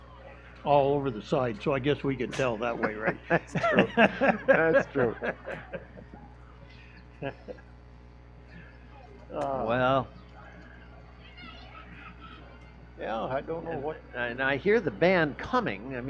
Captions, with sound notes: all over the side. So I guess we could tell that way, right? That's true. (laughing) That's true. Well. Yeah, I don't know what- And I hear the band coming.